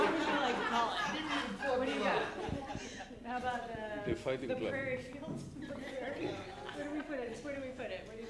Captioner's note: laughter